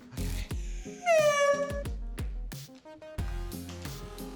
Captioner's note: honks slowly